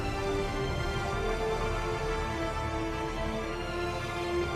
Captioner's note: none